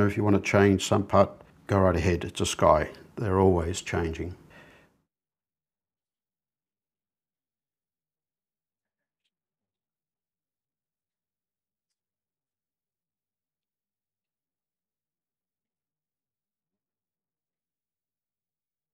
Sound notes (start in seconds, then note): 4.2 silence